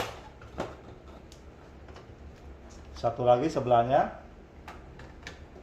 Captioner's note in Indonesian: suara damper dilepas